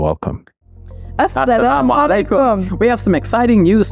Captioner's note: speaking in foreign language